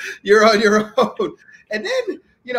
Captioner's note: laughing